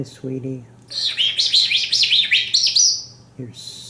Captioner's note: whistling